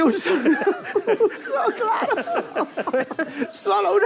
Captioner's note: laughs